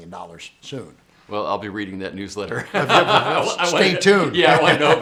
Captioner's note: laughs